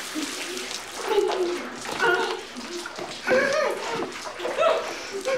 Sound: muffled screaming

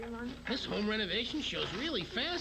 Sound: TV playing

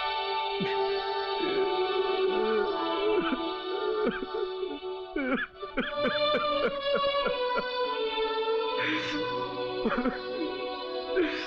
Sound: sobbing

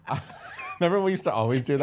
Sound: laughing

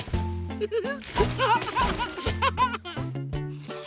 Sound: giggling

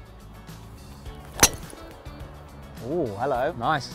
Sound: gold Ball Being Hit

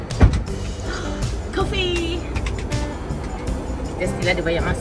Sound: background music; gasp

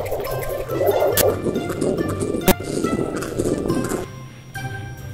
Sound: whirring slowing down

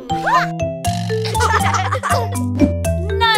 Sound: laughing

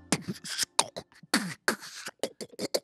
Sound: beatboxes

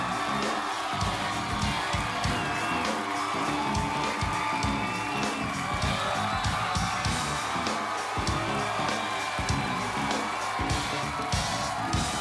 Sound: cheers and applause

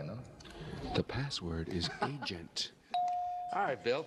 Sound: laughs

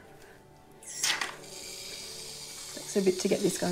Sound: spray can whirring

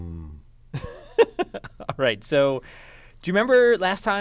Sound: laugh

